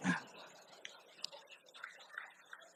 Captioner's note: laughter